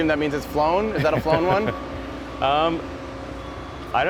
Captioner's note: Elon laughs